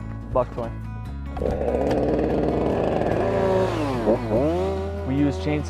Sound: chainsaw rumbling

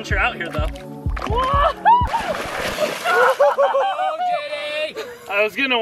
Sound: all laughing

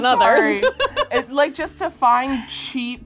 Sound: laughs

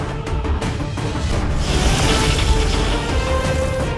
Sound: sound effect playing

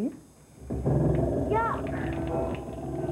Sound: pipes groaning

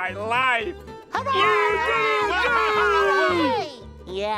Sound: cheering

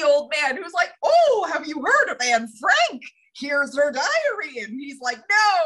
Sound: weird old man voice

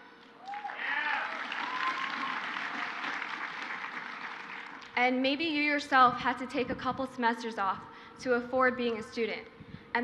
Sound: crowd cheers

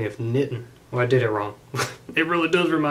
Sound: laughs

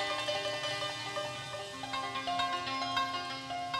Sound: none

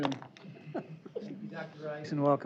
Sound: laughter

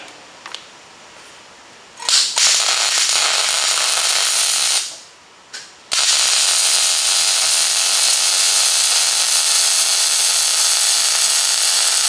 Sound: welding

